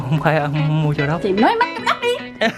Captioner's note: laugh